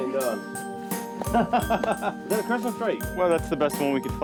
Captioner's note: laughing